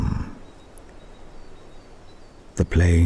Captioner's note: wind and birdsong